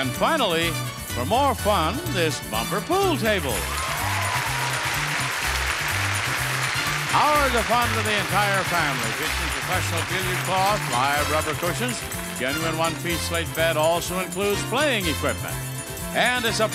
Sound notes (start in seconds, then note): 3.3 audience cheers and applauds; 3.3 upbeat music; 15.5 upbeat music